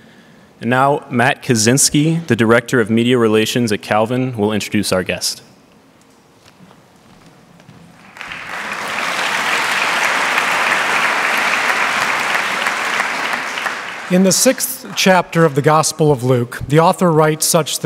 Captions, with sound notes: And now Matt Kazinski, the director of media relations at Calvin, will introduce our guest. (Applause) In the sixth chapter of the gospel of Luke, the author writes such